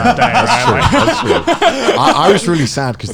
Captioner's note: laughing